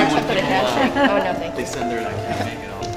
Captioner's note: laughter